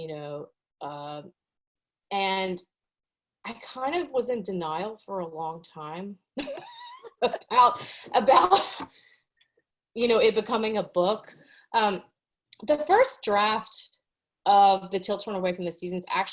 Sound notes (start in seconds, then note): 7.2 laughs